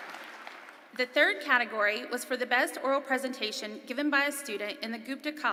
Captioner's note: applause